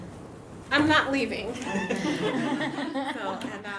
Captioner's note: audience laughs